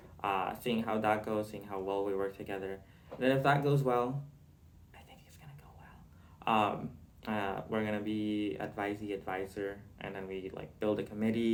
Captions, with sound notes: uh seeing how that goes, seeing how well we work together, and if that goes well (whispers) I think it's gonna go well um uh We're gonna be advisee-advisor and then we like build a committee.